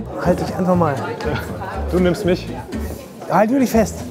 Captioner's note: buzz of voices